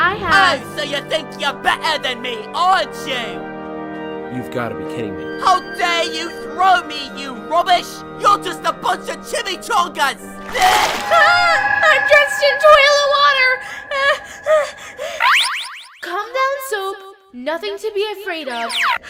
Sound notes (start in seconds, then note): 15.1 chime